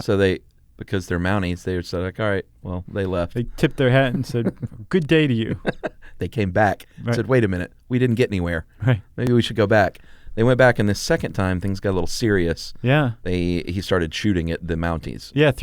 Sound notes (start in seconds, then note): 6.4 laughs